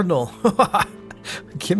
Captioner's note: laughs